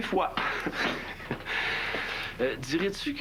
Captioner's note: Rires